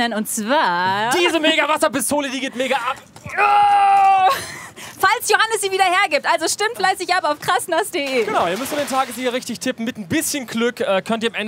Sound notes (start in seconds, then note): 3.1 schreit